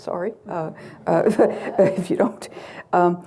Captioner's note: chuckles